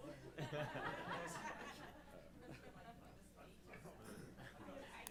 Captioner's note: laughs